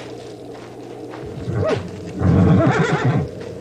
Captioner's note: horse neighing